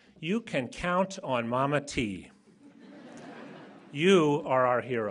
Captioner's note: laughter